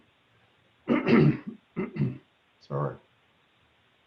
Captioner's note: clears throat